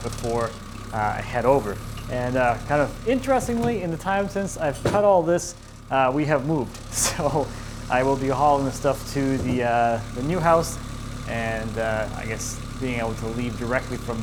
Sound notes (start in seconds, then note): 7.0 chuckles